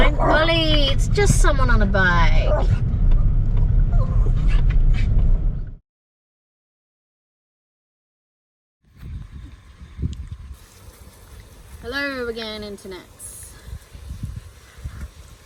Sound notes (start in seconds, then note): 0.0 Ollie growls and barks; 3.0 Ollie whines about wanting to be a Big Dog; 13.9 frying sounds